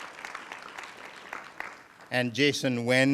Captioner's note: applause